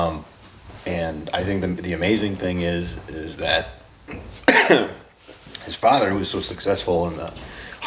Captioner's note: coughs